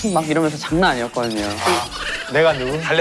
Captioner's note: laughs